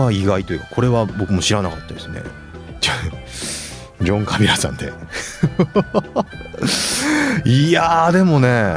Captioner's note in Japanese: 笑い